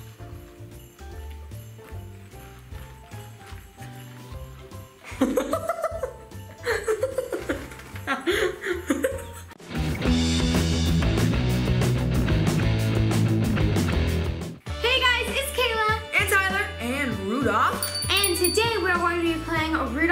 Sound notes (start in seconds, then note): 0.3 playful music; 5.0 laughing; 9.6 rock music